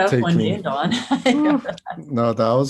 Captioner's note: Joy laughs